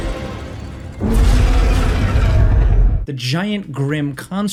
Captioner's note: machine roars